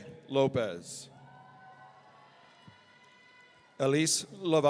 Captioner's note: audience cheering